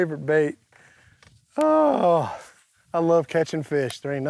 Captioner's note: sighing